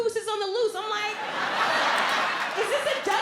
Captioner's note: audience laughs